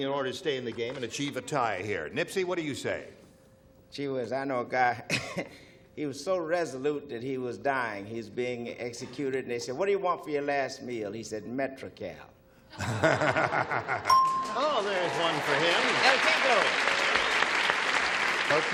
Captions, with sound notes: -Well, Mike you're going match everyone else remaining in order to stay in the game and achieve a tie, here. Nipsey, what do you say? -Gee whiz, I know a guy, he was so resolute that he was dying, he was being executed and they said, what do you want for your last meal? He said metrical. (ding) (applause) -Oh, there's one for him. Got to tinkle.